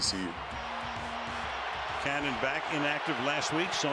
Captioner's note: cheering